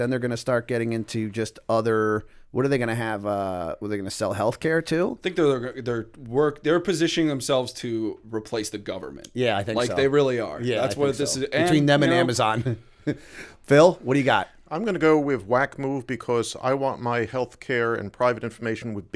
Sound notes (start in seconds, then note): 12.6 chuckle